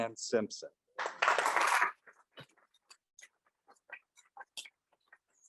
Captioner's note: audience applauding loudly